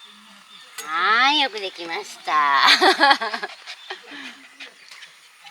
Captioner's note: laughs